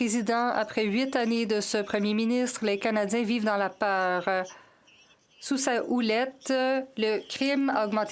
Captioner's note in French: voix de l'interprète